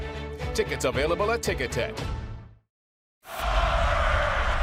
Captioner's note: crowd cheering